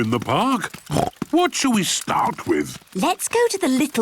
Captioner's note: snorts